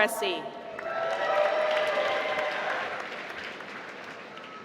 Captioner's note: applause